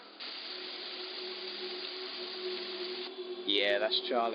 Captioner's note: water gushing